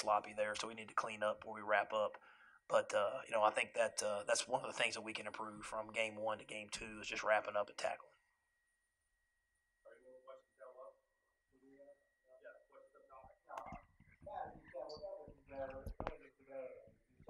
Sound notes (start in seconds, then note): 12.7 muffled microphone